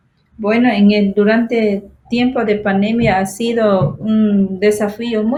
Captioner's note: speaking foreign language